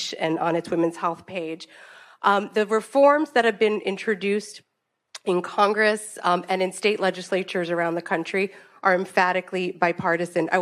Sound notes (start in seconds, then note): none